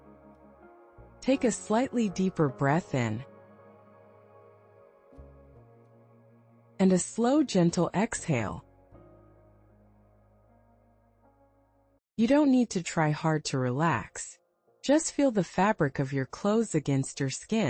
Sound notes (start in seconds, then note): 0.1 pause; 5.5 pause